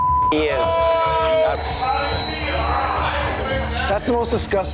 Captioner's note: tense music; patrons shouting; beep